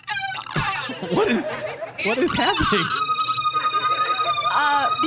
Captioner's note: computer glitch sounds continue